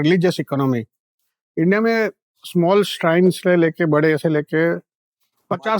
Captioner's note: speaking in Hindi